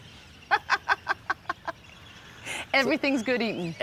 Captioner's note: laughs